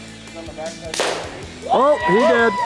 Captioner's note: airgun firing; hunters cheering